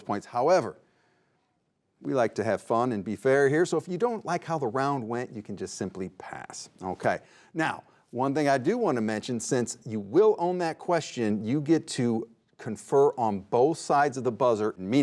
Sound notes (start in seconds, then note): none